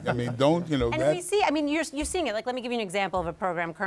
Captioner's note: laughter